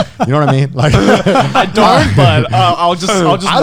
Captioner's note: laughing